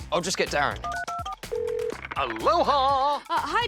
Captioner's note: phone beeps, rings